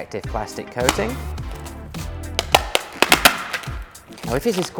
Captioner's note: plastic crackling